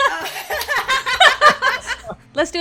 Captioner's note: laughter